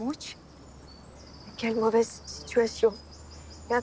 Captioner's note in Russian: говорит по-французски